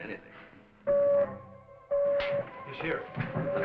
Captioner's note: light beeping